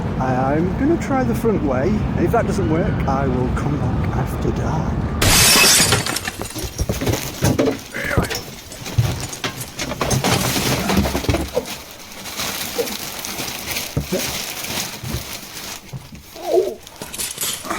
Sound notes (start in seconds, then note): 5.2 glass breaking; 11.3 items falling